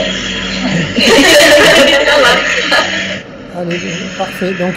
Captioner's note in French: Rire